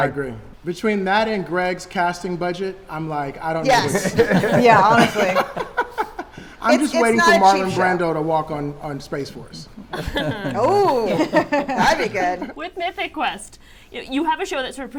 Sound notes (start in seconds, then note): 3.6 panelists laughing